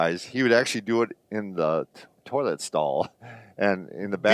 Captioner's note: chuckles